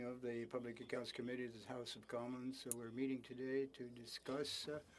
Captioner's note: speaking French